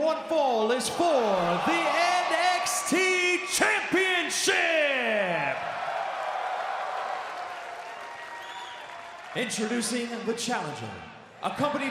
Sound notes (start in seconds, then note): 4.4 crowd cheering